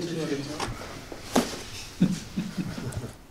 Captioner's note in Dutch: geschuif van doos